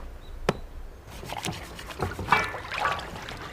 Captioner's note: brush scrubbing; water splashing